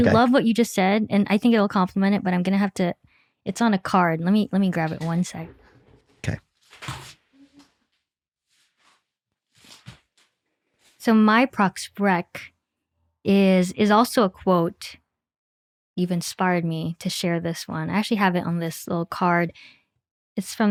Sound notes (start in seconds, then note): 7.3 chair creaks; 9.4 papers shuffling